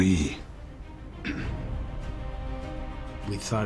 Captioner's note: clears throat